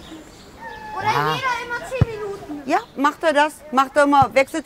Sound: a boy calls

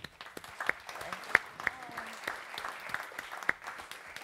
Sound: audience clapping

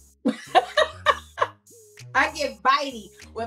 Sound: laughing

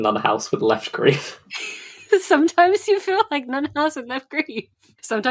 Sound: laughing

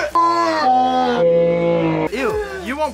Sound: disgusted screaming; slowed disgusted screaming

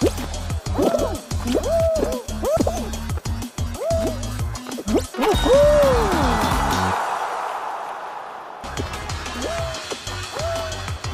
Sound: excited bean noises

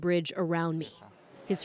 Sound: speaking alternate language

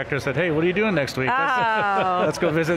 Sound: laughs

